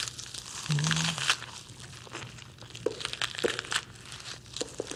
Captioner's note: crushing sound